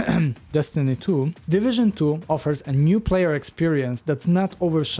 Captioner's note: cough